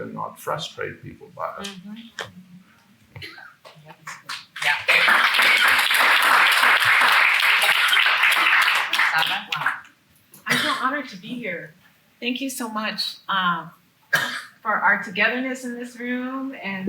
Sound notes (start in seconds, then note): 3.1 attendee coughing; 3.6 attendees clapping; 10.4 attendee coughing; 14.1 attendee coughing